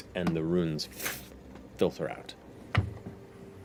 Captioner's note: snuffing